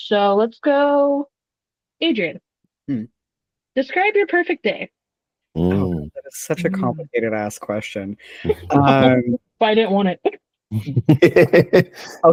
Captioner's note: laughs